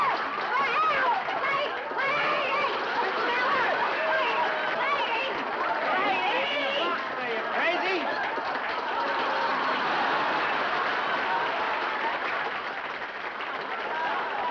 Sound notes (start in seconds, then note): 4.7 applause; 8.9 laughter